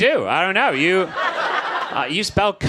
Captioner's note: audience laughs